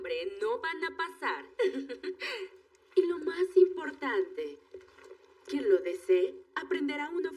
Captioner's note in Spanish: Ríe